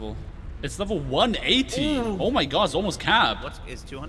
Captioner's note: shocked Noises